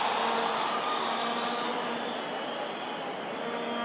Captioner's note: applause